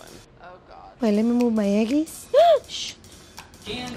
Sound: gasps

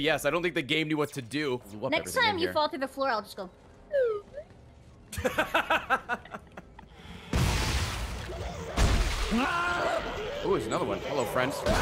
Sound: laughs

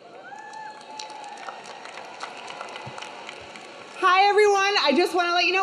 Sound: audience cheering; audience clapping

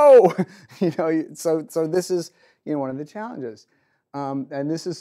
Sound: chuckles

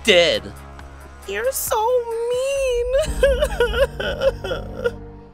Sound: crying

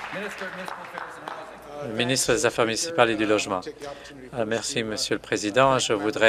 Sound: applause

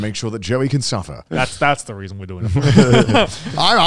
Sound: chuckling

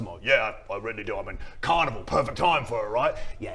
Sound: none

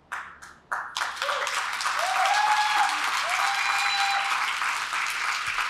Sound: applause; cheering

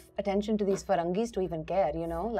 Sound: speaks in foreign language

